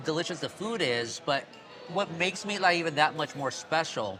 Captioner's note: none